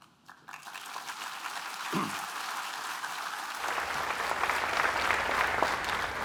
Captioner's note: applause